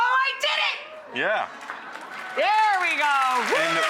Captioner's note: audience applauds